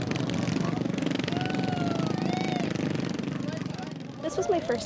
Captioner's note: crowd members yelling